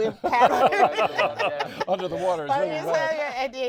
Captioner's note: laughing drowns out speaker